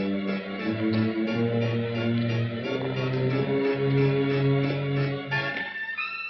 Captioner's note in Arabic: خطوات